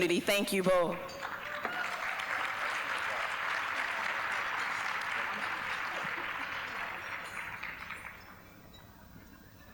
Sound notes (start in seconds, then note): 0.3 applause